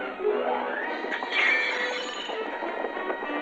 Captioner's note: glass shatters